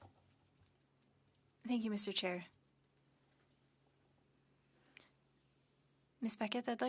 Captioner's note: speaking French